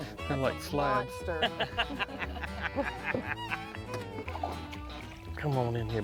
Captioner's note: laughing